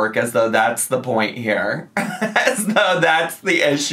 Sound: laughs

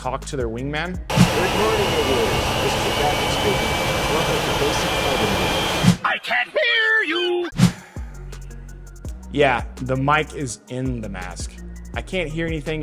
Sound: loud engine noise, no talking can be heard

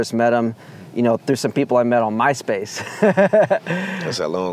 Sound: laughs

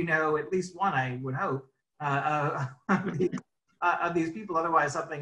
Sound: laughs

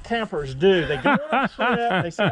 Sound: laughing

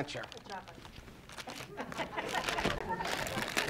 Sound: rustling, audience laughing

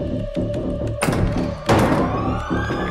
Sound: door's Opening Sound

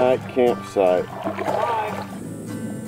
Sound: water sloshes

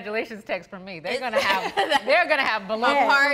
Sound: laughs

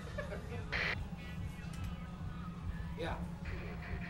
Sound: men laughing; walkie talkie buzzes

